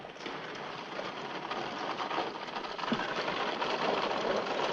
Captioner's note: caravan rattling